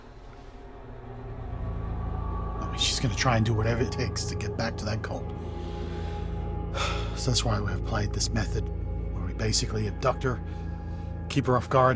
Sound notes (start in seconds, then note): 0.0 eerie music; 5.3 takes a deep breath